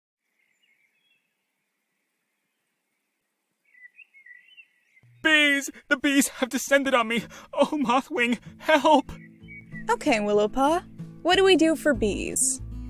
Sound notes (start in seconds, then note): 0.0 birds chirping